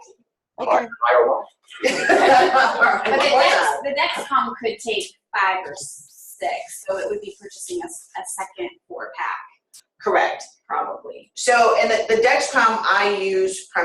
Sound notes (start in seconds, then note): 1.8 laughter